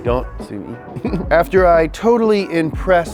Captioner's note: giggles